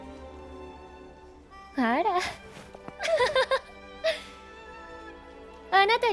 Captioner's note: laughs